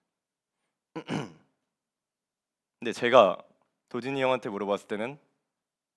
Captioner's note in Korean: 목을 가다듬음